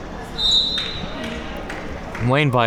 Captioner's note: whistle being blown